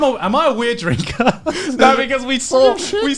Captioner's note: laughs